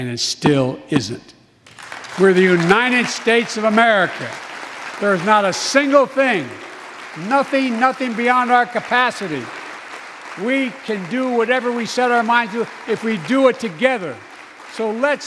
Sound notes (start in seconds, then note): 5.7 applause